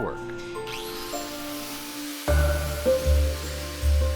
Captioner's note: machine starting